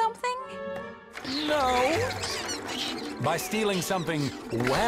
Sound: Pascal squealing

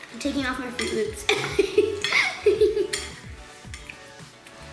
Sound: laughs

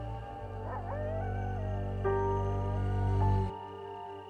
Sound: wolf howling

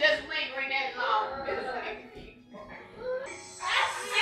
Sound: people talking

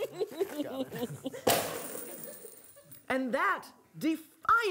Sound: box slamming

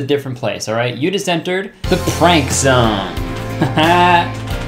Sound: laughing; upbeat music

